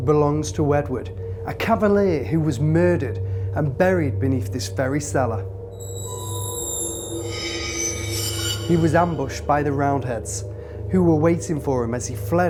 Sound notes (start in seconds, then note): 5.0 ominous scraping